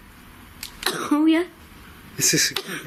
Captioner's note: coughs